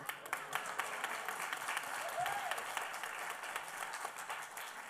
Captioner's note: applause